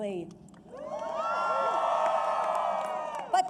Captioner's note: applause